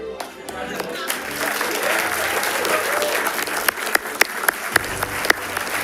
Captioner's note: audience and participants applauding